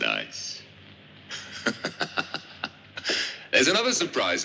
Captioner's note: laughs